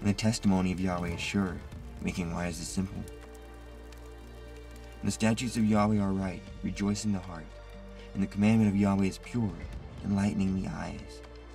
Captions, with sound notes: And the testimony of Yahweh is sure. Making wise the simple. (flames crackle) The statues of Yahweh are right, rejoicing the heart and the commandment of Yahweh is pure, enlightening the eyes,